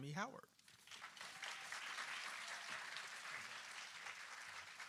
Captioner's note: applause